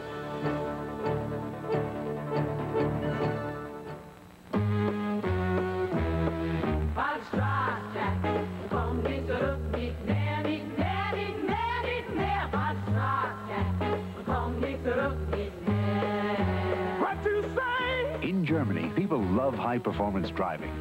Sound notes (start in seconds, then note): 8.3 in German